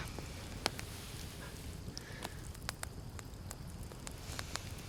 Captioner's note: fire crackling